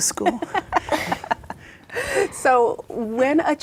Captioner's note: laughing